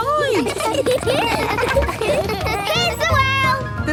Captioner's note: laughter